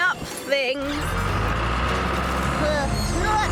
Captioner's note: engines Running